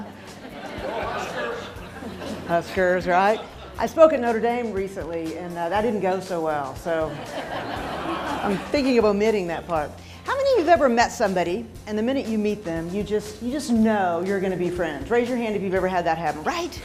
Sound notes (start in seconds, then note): 0.0 laughter; 7.1 laughing